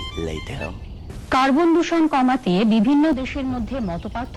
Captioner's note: news continues to telecast